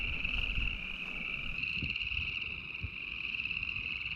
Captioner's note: frog choir